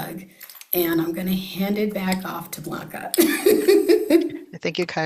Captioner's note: laughs